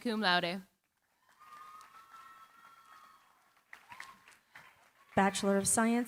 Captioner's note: cheering, applause